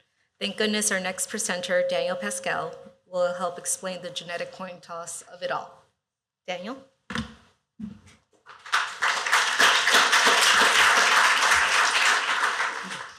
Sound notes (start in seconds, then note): 8.4 applause